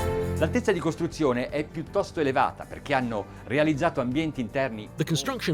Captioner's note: speaking in a foreign language